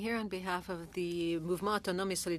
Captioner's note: speaking French